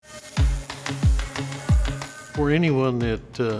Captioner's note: machines whirring